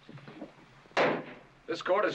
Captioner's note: bang